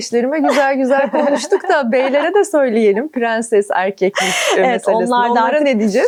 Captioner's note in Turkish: kahkaha